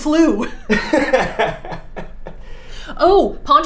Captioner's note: both laughing